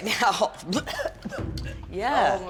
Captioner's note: gagging